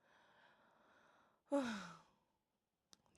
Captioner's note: deep sigh